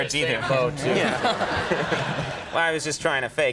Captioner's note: audience laughing